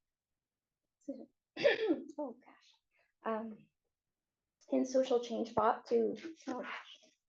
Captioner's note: clearing throat